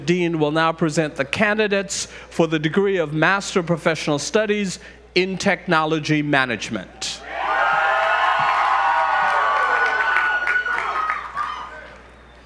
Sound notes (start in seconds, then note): 7.2 audience cheering